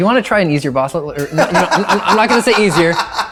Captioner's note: laughing